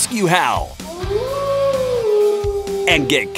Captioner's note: wolf howling